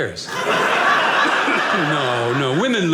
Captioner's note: audience laughing